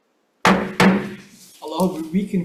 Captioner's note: gavel clanking